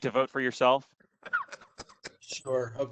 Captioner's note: laughter